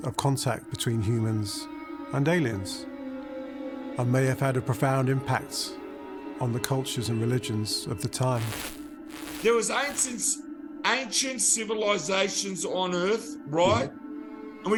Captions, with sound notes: of contact between humans and aliens, and may have had a profound impact on the cultures and religions of the time. (static crackling) - There was ancient civilizations on Earth, right?